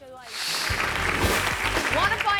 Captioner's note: audience applauds